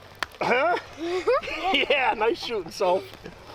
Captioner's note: laughs